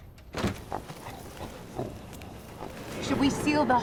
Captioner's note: growls